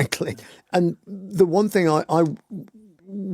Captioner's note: laughs